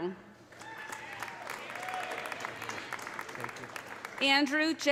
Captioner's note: audience applauding; audience cheering